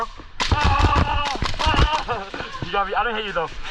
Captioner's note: war cry